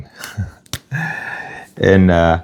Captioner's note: sighs and gasps